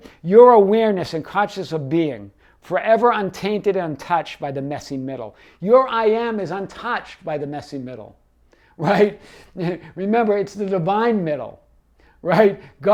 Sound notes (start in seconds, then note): 8.9 laughs